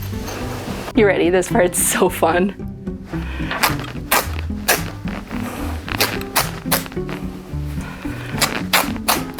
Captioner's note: fabric Ripping